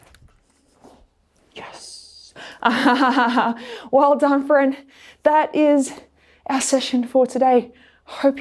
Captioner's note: laughs